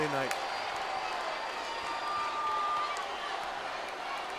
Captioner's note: audience applauds